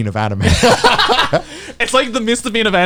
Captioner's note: both laughing